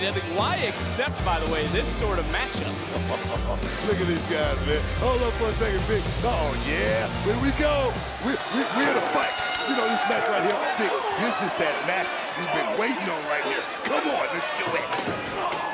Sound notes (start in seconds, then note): 2.5 laugh